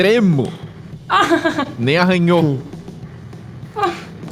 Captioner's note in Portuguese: Risos